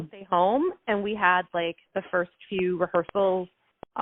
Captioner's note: none